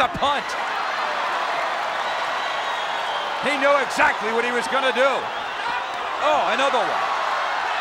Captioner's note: applause